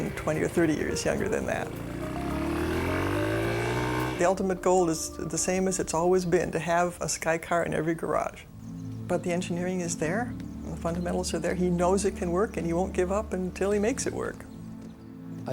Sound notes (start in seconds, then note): 2.3 motorbike roaring